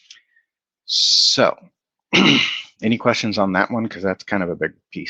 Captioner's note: clears throat